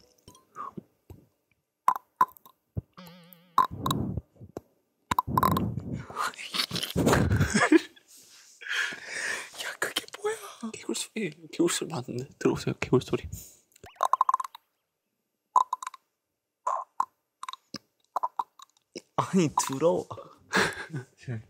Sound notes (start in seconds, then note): 6.5 laughing; 15.6 croak